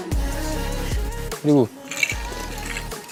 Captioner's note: sip